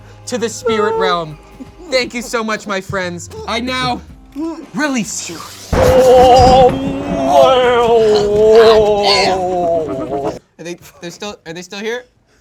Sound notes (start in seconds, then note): 5.7 thunder claps